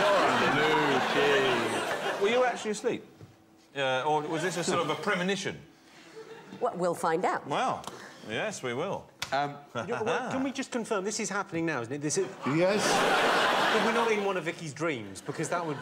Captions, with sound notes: "Blue cheese"! Were you actually asleep? Or was this a sort of a premonition? We'll find out. Well. Yes we will. Erm. Can we just confirm. This is happening now, isn't it? This is... Yes. [laughter] We're not in one of Vicky's dreams? Because that would be...